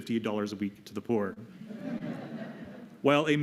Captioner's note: laughter